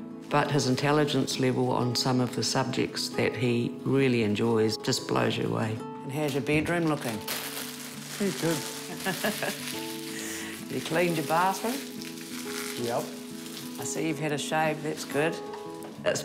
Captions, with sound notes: but his intelligence level on some of the subjects that he really enjoys just blows you away. And how's your bedroom looking? - Yeah, good. - (LAUGHS) You cleaned your bathroom? - Yep. - I see you've had a shave. That's good.